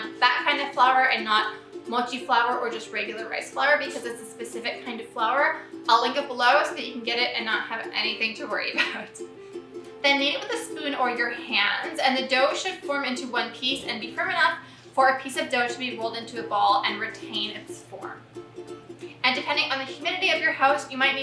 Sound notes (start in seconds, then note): 8.8 laughs